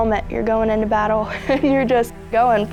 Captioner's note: laughs